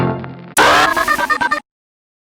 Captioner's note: technical malfunction sound effect